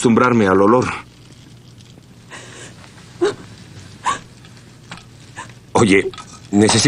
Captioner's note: groans and gasps